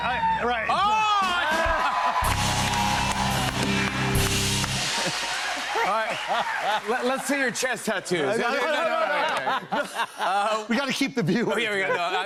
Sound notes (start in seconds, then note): 0.9 cheers and applause; 8.4 laughter